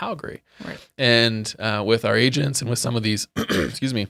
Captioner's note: coughs